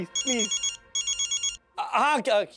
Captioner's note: phone ringing